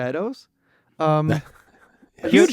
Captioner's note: laughs